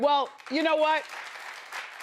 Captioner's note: audience applauds